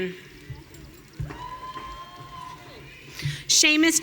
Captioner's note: audience cheering